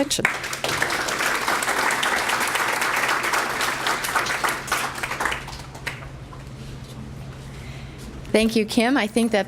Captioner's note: applause